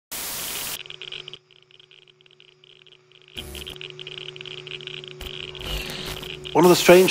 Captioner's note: television static and noise